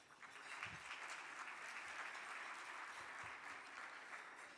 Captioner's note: audience clapping